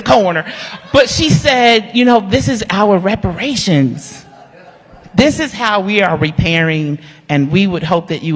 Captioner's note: laughter